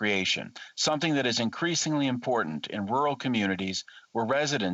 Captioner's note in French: voix de l'interprète